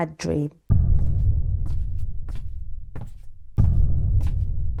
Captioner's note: footsteps